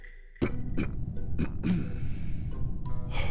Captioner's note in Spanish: carraspea